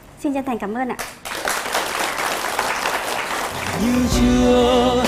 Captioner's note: applause